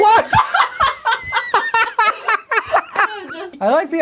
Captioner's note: all laughing